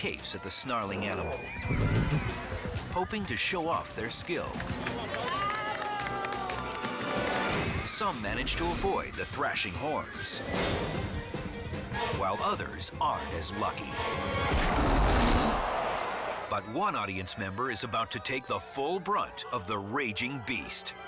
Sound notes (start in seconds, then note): 1.8 hooves stomping; 14.4 blow thuds